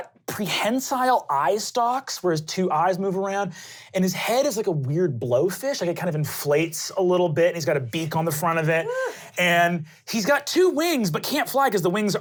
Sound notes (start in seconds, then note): 8.8 sighing